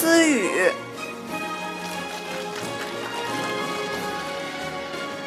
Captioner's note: audience applauding; orchestral music